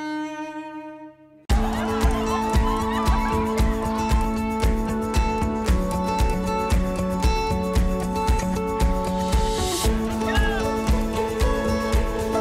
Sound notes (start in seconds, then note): 1.3 upbeat pop music; 1.5 students cheering